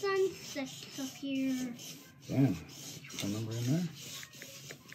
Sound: child talking

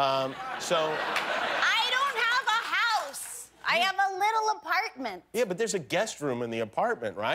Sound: laughter

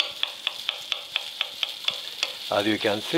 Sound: pan sizzling; knife softly chopping

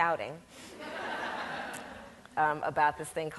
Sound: audience laughs

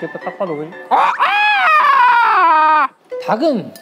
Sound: whining in chicken language

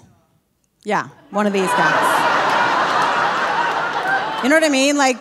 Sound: audience laughing

